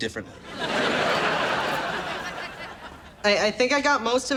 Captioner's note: audience laughs